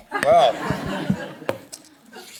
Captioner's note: laughter